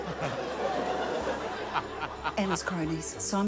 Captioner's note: laughter